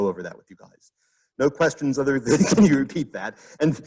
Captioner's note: laughs